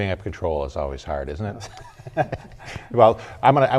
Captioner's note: laughter